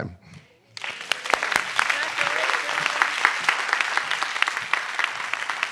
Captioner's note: attendees applauding